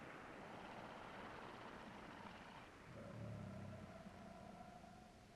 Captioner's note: creature grumbling softly